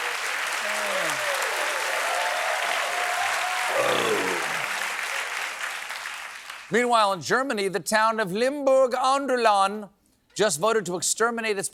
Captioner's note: applause